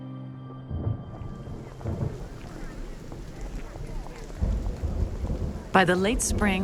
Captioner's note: thunder rumbling